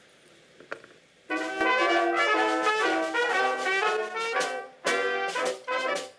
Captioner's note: audience applauds